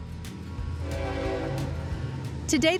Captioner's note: train whistle blows